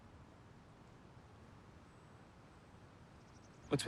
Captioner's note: birds chirping